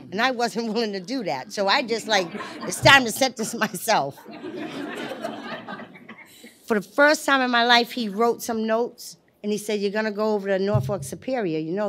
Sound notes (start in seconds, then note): 4.1 laughter